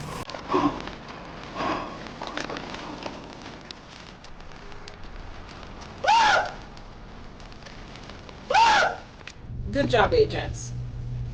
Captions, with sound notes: (upbeat jazz) (screaming) (screaming) Good job agents.